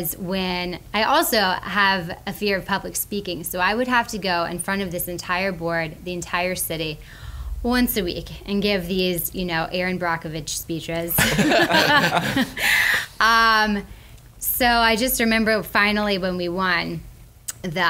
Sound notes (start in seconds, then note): 11.2 laughs